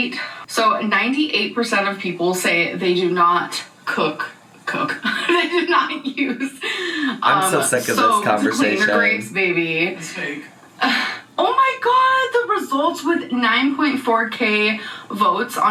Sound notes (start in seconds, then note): 4.8 laughing